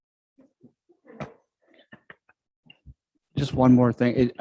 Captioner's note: all chuckling